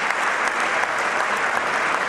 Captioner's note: applause